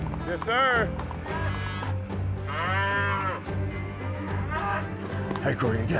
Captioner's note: cattle mooing